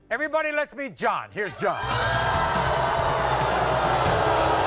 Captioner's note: audience booing